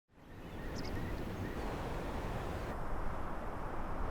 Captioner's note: wind whistling